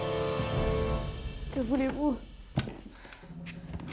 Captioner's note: speaking French